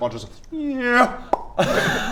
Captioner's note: nyerrrrrra...pop!